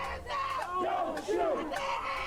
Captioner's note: crowd